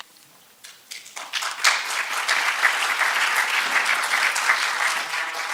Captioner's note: applause